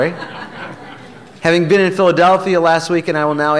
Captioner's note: laughter